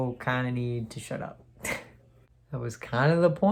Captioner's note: laughs